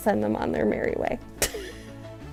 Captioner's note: laugh